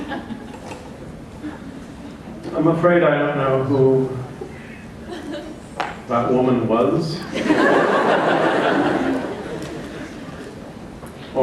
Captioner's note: laughter